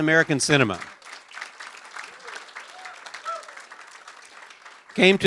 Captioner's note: applause